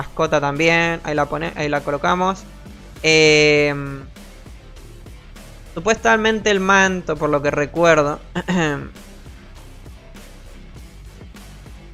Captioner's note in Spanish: carraspeo